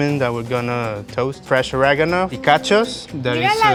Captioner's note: speaking Spanish